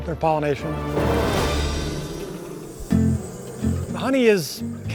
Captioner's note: bees buzzing